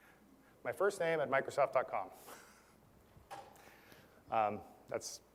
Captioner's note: laugh